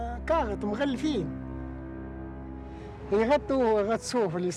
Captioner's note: speaking in foreign language